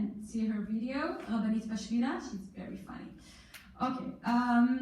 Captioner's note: in foreign language